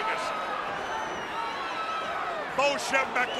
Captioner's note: crowd cheering